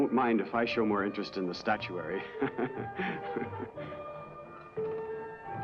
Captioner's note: chuckles